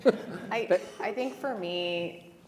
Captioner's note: all laughing